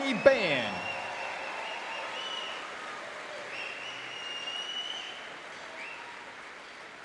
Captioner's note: audience applauding and cheering